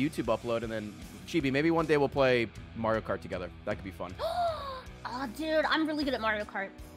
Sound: gasps

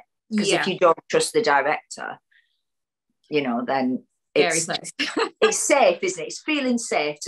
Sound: laughs

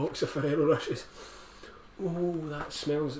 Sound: sniff

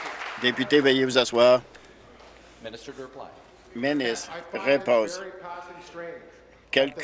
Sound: applause

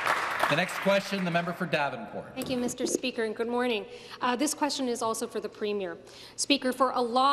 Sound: some Applause

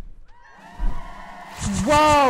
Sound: crowd cheering

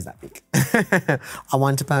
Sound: chuckles

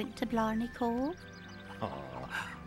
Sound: chuckles

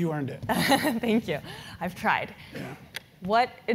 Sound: laugh

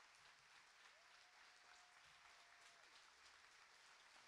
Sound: applauding

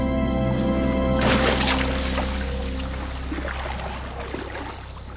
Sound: water splashing

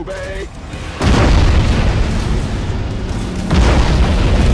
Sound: bam; blam

